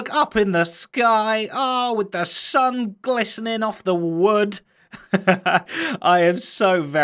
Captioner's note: chuckles